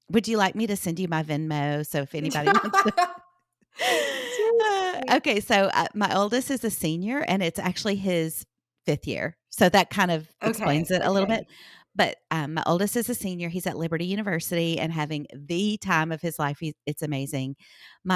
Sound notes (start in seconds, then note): 2.2 laugh